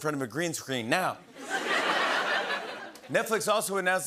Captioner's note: laughter